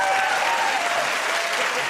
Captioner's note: cheers and applause